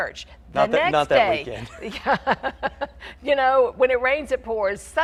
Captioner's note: laughs